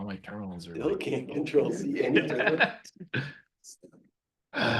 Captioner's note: laughing